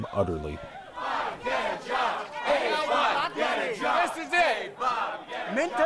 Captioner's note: chanting